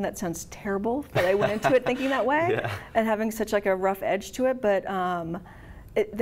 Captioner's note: laughs